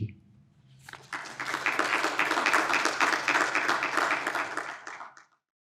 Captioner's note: audience applauding